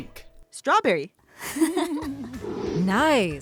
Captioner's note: both giggle